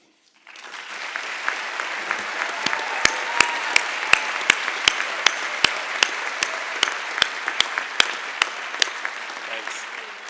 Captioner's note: applause and Cheering